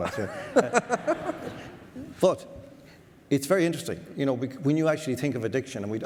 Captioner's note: audience laughs